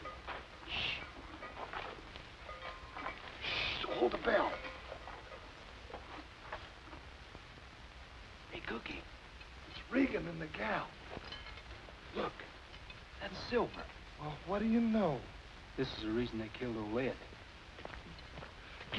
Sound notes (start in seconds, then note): 17.7 footsteps